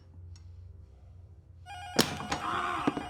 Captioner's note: intercom rings